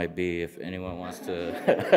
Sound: audience laughing

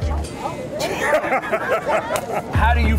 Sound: laughs

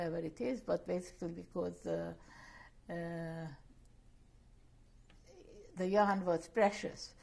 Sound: pauses for 3 seconds

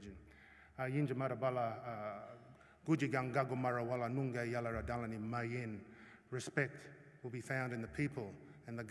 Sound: non-english speech

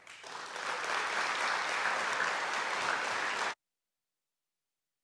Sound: audience clapping

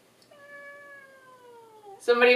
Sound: cat meowing

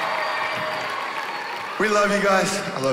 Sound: cheering

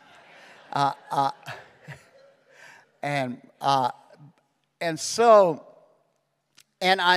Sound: chuckles

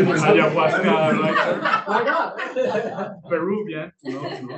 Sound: laughing

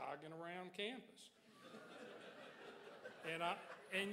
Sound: crowd laughs

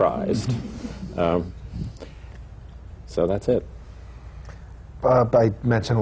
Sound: laughter

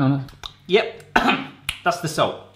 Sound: coughing

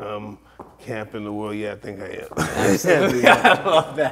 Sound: both laughing

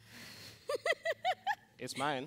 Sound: Connie laughs

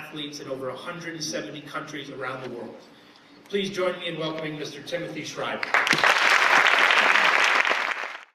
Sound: applause

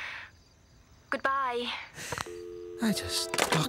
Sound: dial tone

